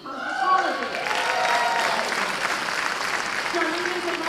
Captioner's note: cheers and applause